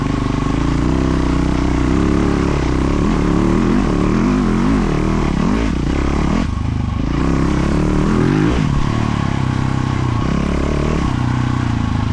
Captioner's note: engine revving